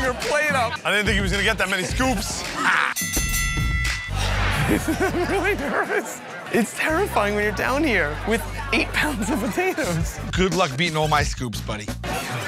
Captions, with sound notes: her plate up. I didn't think he was gonna get that many scoops. Ha! (dinging) (laughing) I'm really nervous. It's terrifying when you're down here with eight pounds of potatoes. Good luck beating all my scoops buddy.